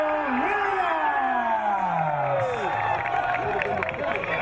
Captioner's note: crowd cheering